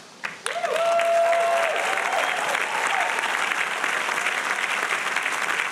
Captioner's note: audience applauding and cheering